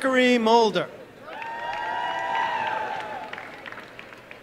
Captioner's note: applause and cheering